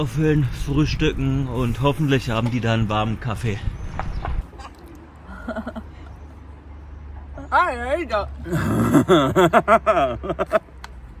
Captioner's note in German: gelächter